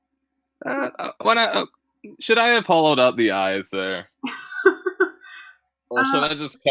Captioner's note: laughter